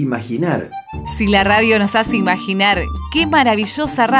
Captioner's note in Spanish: voz en off